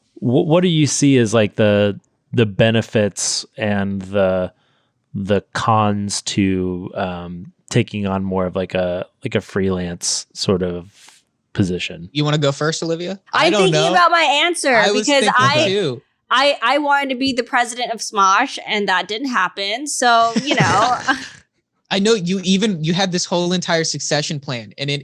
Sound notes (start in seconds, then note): 20.1 laughing